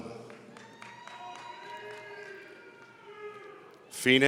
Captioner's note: audience cheering